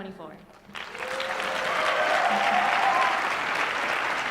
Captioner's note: applause and cheering